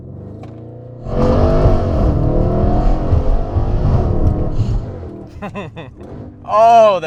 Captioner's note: engine revving proceeded by evil laugh